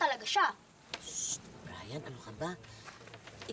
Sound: shushes

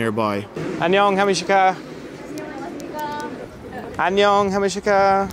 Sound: speaking foreign language

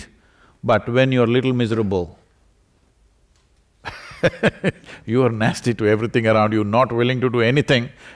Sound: laughs

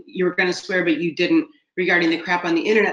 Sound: laughing

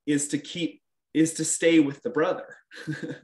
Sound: laughing

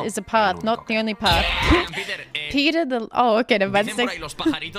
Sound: laughs

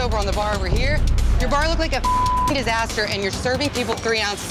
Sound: beep

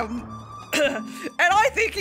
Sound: coughs uncomfortably

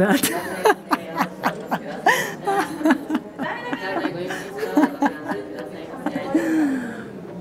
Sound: laughs

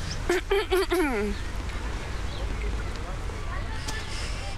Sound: loud throat clearing

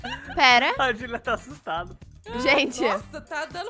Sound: laughing on the background

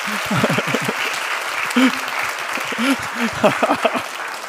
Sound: laughs

